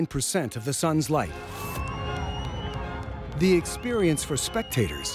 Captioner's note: people cheering